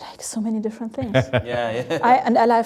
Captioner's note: laughs